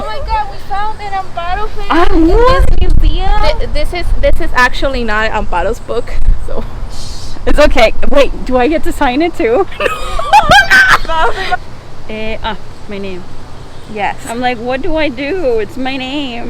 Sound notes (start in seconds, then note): 7.8 sarcasm; 9.7 laughter